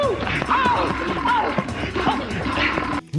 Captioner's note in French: Bruits de bagarre nulle